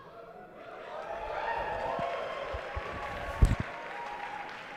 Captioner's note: cheering